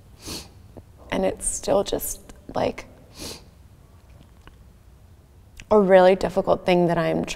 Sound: sniffing

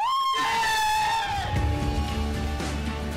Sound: cheering

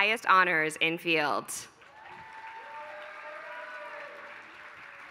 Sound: applause

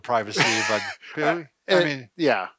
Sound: laughing

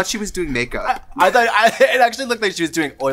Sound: laughs

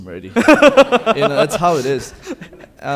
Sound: laughing

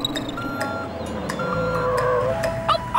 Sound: chirping; beeping; barking

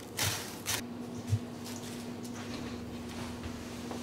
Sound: plastic crumpling; footsteps

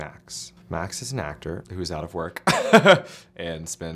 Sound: laughs

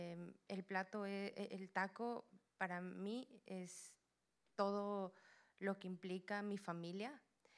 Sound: Spanish language

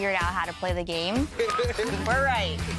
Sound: laughs

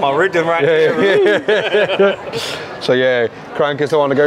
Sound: laughing

